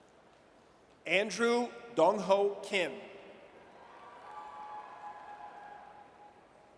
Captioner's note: audience cheers